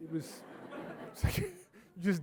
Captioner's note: audience laughing